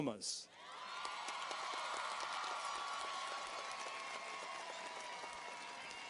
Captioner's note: audience cheers and applauds